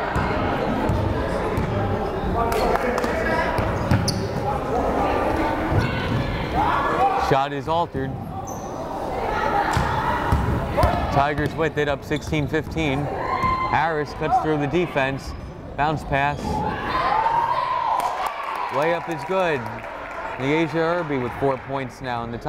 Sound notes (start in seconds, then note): 0.2 crowd chattering; 16.6 crowd cheering